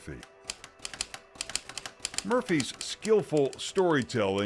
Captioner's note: typewriter clacking